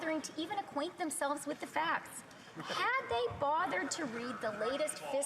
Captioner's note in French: voix de l'interprète